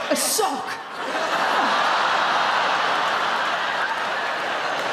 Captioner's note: audience laughing